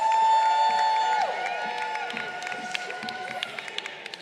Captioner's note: crowd cheering